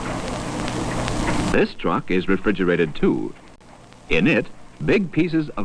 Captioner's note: rollers rattling